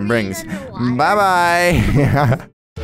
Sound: laughs

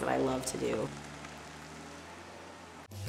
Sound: car driving away

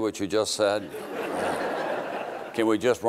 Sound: crowd laughing

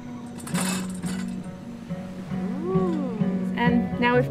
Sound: metal clinking

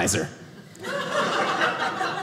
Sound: audience laughing

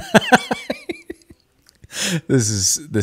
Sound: laughing

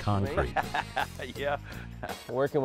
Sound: laughs

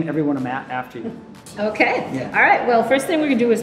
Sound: chuckles

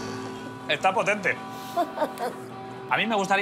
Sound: laughs

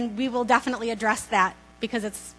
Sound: none

